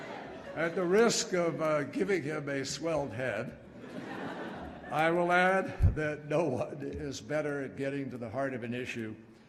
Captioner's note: laughter